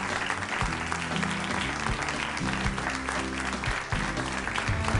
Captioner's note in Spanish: Aplausos